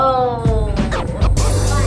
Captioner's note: groans; bright pop music